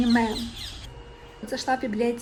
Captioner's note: bird sounds